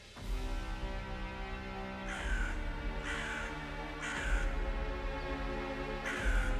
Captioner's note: slow scary music; birds caw